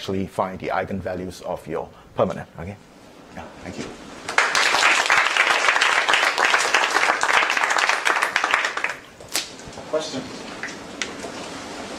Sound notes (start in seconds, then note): 5.8 applause